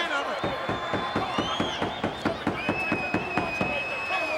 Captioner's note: hand pounding